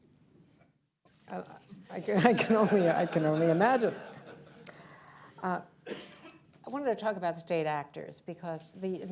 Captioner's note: laughter